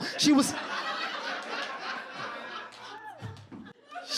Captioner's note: audience laughs